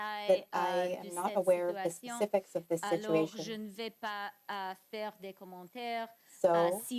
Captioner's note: translator voice is muffled